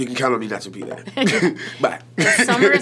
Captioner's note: laughs